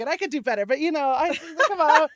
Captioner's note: laughter